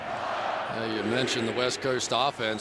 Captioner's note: crowd chanting